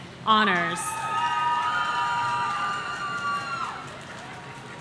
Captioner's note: audience cheering